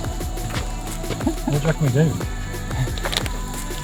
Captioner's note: laughing